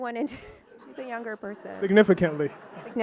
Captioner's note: audience laughing